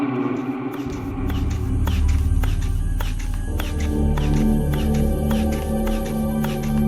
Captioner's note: eerie music; machine ticking